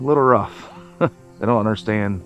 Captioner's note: chuckles